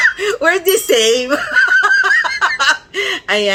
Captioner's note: laughter; laughter